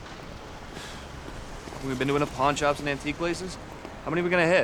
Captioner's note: sighs